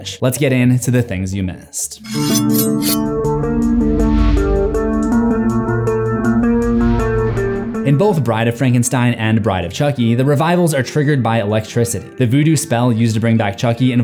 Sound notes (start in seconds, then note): 2.0 sword zings; 3.1 tense suspenseful music; 4.1 air whooshing